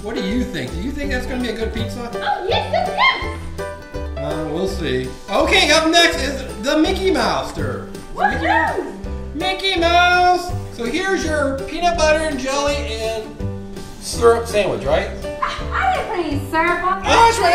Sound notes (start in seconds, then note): 3.9 voiceover; 9.6 voiceover; 17.4 voiceover